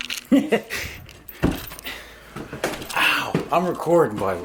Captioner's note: voices chuckling; male Voice